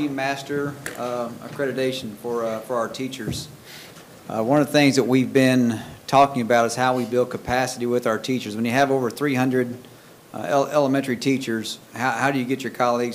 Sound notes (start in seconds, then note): none